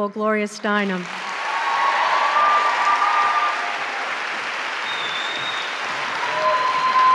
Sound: applause

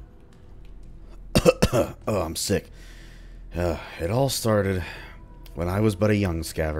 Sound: cough cough

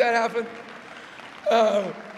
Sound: applause

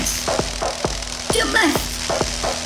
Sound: crackling electricity

